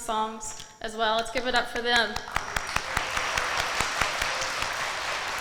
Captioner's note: audience applauding